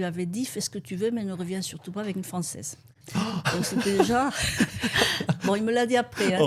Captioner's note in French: rires